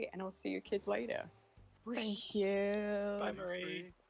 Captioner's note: whoosh